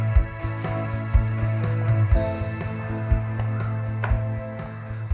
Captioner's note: none